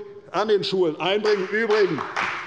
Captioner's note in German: Beifall bei der CDU